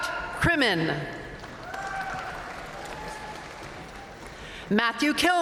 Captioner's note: audience cheering and applauding